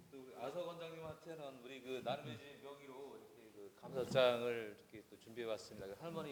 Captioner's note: speaking in foreign language